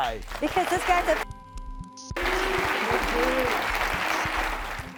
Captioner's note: beeping; audience clapping